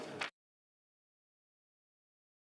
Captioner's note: speaking French